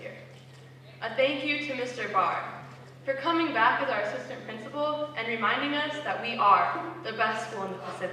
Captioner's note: none